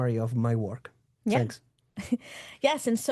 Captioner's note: chuckles